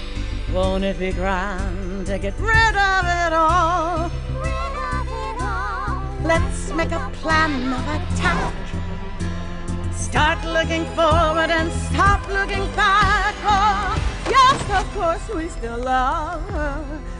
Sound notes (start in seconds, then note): 7.7 whoosh, at "attack"; 15.7 Thump and Tumble, at "yes"